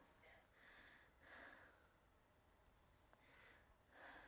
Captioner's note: insects chirping